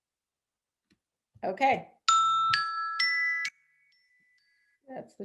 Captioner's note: bell dinging